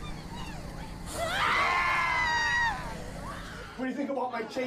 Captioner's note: screams